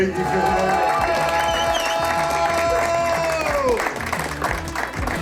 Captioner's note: crowd clapping and cheering